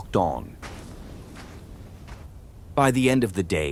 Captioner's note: walking noises